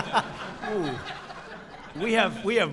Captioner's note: laughter